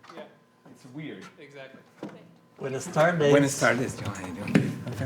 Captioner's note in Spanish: Hablando en Inglés y Español